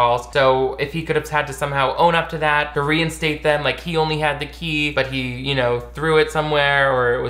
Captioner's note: none